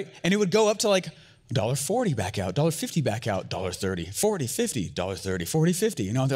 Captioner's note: none